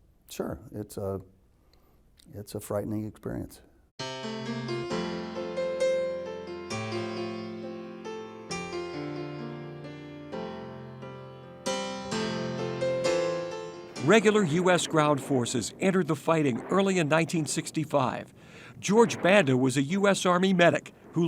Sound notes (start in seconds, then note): 4.1 inspirational piano solo; 17.6 guns firing faintly